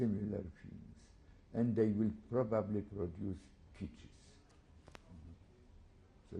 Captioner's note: non-english